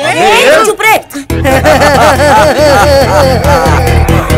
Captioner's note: Laughing